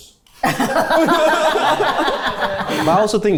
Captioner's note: everyone laughs